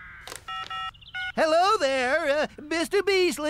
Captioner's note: phone Buttons Beep